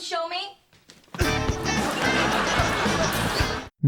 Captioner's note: audience laughter